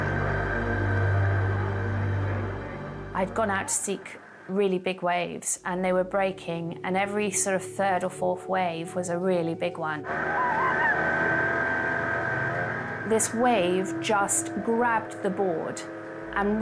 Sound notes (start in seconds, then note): 0.0 intense music; 0.0 boat droning; 10.0 boat droning; 10.0 groans and screams